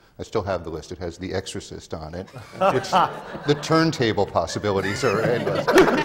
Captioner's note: laughter